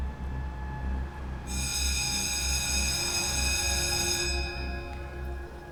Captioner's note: school bell ringing